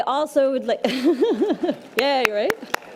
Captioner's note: laughs